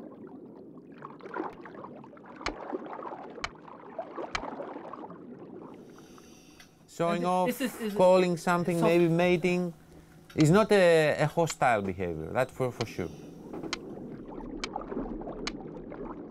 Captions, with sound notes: [seal clicking] Showing off, calling something, maybe mating. It is not a hostile behavior, that's for sure. [seal clicking]